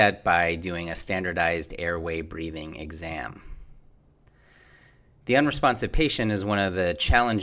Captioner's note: Breathing